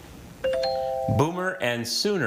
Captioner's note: text chiming